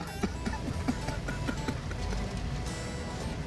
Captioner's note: Robert laughs